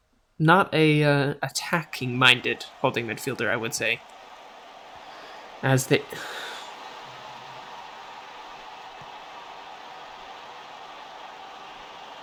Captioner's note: frustrated breath